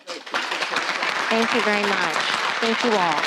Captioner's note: audience applauding